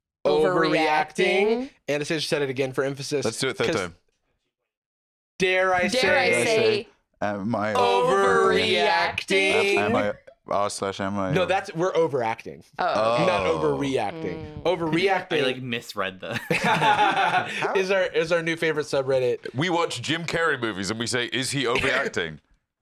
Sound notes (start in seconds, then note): 16.3 laughs